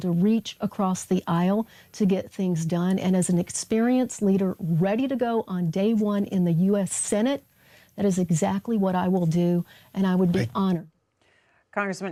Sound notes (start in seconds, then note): none